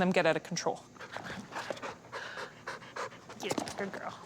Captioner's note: radical panting